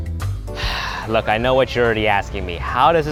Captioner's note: upbeat instrumental music; sighing